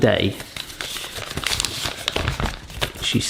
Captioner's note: paper rustling sound